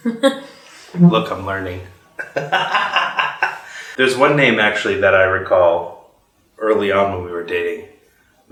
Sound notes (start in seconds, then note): 2.1 laughs